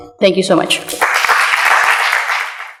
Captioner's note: applause